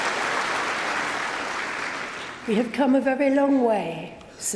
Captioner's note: applause